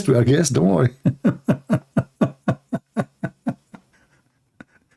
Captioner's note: Ketawa